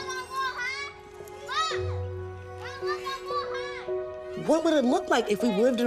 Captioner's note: children calling